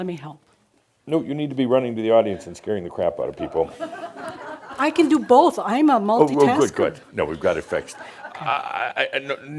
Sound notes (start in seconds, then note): 3.5 some chuckles; 7.6 more chuckles